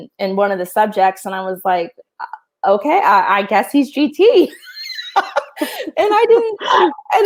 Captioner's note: laughs